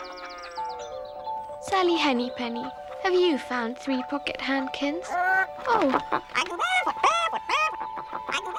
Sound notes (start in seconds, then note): 3.8 clucking